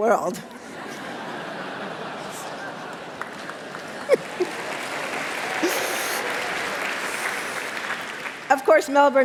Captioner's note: laughter And Applause